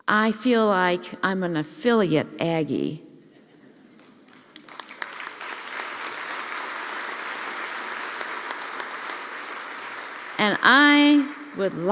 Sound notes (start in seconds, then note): 3.3 laugh; 6.6 applause